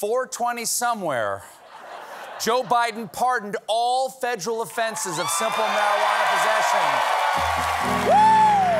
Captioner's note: cheers and applause